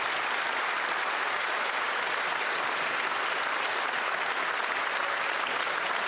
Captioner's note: some Applause